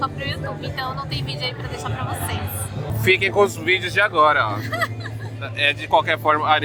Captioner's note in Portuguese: risadas